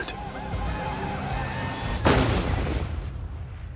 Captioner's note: gunshot